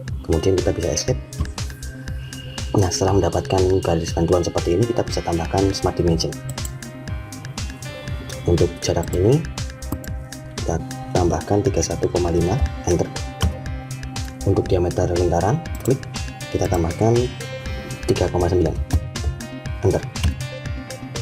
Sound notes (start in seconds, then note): 9.8 click; 15.7 click